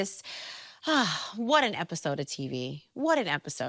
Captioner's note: sighs